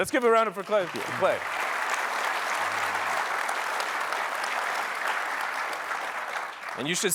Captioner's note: applause